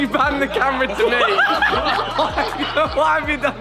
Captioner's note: everyone laughing